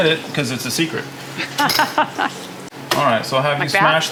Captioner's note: laughing